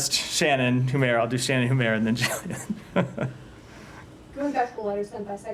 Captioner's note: laughter